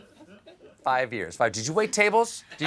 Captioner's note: laughter